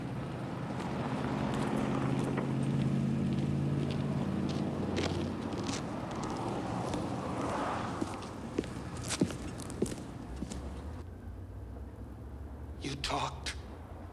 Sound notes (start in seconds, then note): 3.1 footsteps crunching